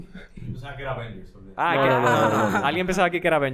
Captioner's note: laughss